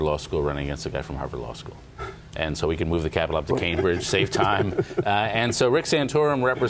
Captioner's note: laughter